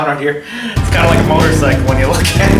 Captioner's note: motorcycle engine roaring